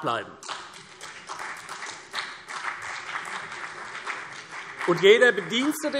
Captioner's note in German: Beifall CDU und BÜNDNIS 90/DIE GRÜNEN